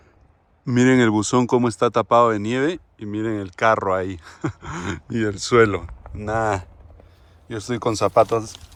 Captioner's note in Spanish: risas